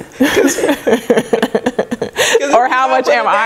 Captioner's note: laughing